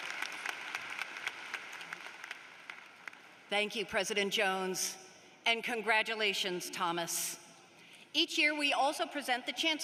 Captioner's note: applause